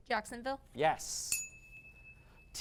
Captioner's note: ding